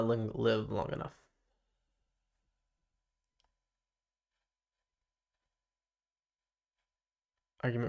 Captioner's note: silence